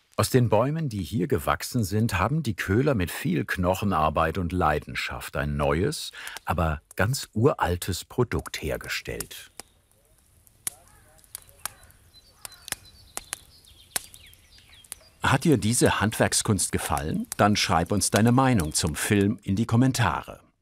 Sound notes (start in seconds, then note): 9.1 fire crackles; 12.4 birds chirping